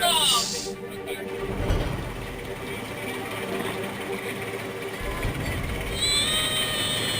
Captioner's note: intense music; helicopter whirring; screams